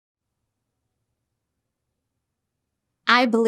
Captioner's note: silence